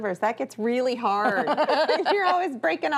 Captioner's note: laughs